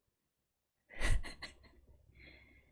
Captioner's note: laughs